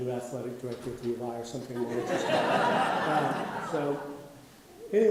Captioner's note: audience laughing